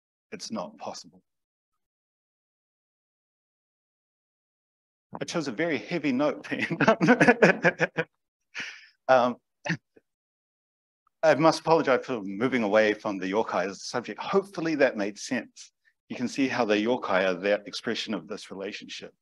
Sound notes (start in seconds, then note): 6.5 speaker laughs